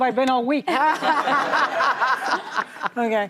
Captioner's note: laughter